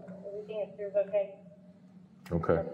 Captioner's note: radio chatter